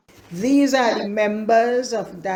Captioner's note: AUDIO RECORDING continues